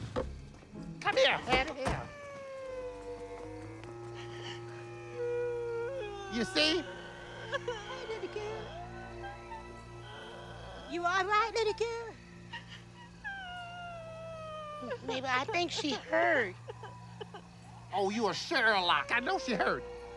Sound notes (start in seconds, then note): 3.9 sobbing